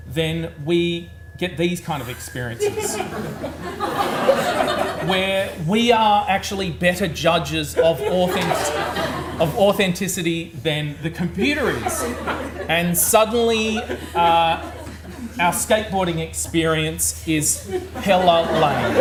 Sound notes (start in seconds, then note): 2.0 audience laughs; 7.7 audience laughs; 11.3 audience laughs